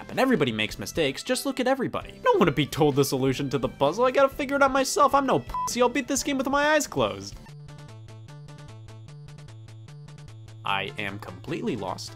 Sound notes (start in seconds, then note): 5.5 beep; 7.3 video game music